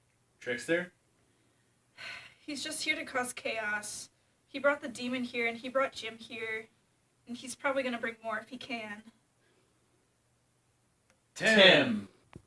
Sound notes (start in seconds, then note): 2.5 sighs